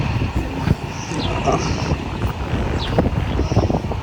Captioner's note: crowd chatting